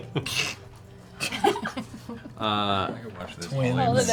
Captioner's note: laughter